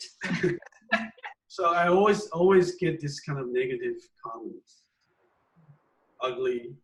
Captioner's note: laugh